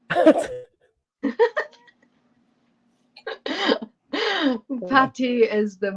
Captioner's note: laughter